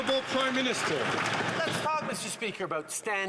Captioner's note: some Applause